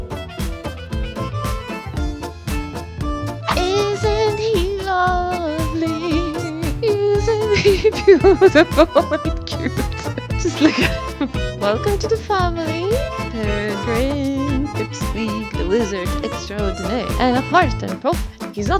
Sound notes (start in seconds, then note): 9.4 laughs